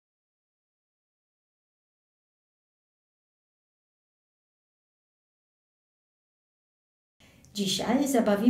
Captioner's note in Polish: cisza